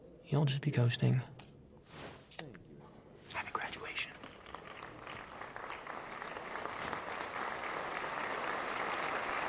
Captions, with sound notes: You'll just be coasting. Happy graduation. (audience applauding)